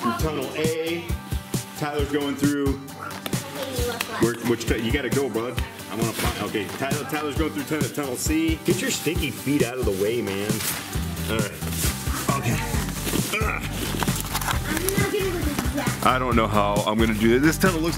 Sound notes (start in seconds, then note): 13.1 grunts